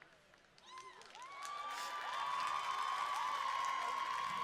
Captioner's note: cheering